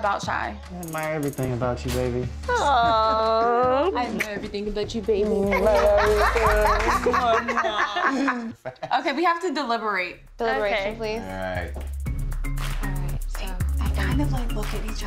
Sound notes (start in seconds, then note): 5.3 all laughing